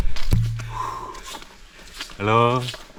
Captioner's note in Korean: 한숨